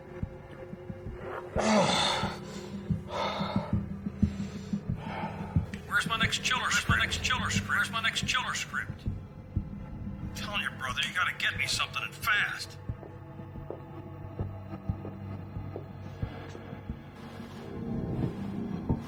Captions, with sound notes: (dramatic music) - [Voice-over] Where's my next chiller script's? My next chiller script. Where's my next chiller script? I'm telling your brother you gotta get me something and fast. (subtle music)